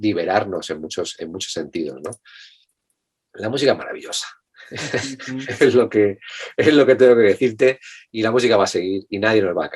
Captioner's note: Risas